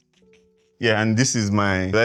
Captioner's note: laughs